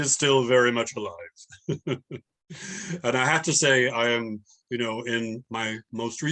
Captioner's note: laughs